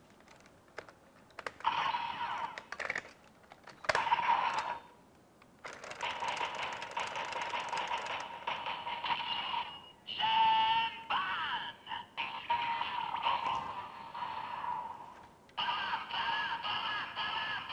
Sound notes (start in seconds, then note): 1.4 gear cap opened; 5.6 crank sound effect; 12.0 waiting music